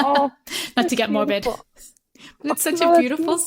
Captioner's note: laughter